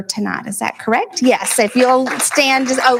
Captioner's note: applauding